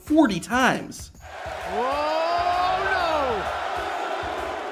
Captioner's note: crowd clamoring